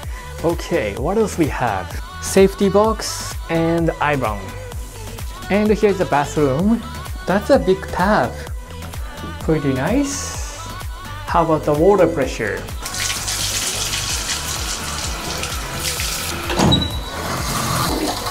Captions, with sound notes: Okay, what else we have.... Safety box and iron. And here's the bathroom. That's a big tub. Pretty nice! How about the water pressure? [WATER BABBLES]